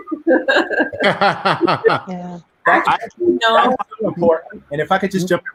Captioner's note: laughing loudly